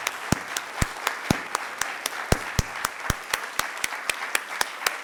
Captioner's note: audience applauding